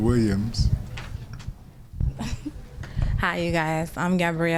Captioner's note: laughter